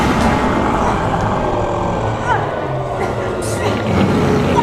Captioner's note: growling